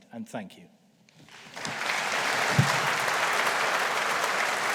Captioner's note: audience applauding